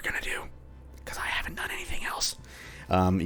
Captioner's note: whispers; end whisper